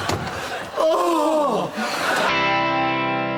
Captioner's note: exasperated moan